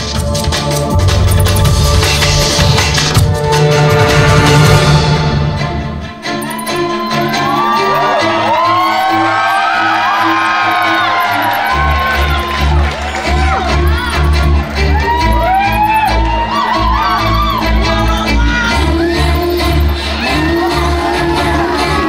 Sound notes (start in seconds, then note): 0.2 foreboding music crescendos; 5.7 audience cheering